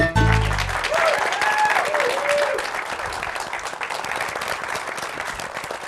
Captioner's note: cheering and applause